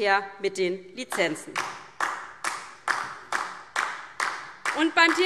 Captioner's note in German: Beifall DIE LINKE